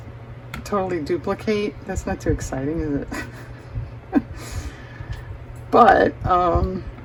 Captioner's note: laughter